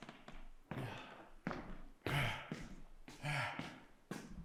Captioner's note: Jacob panting